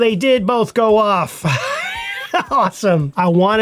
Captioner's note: laughs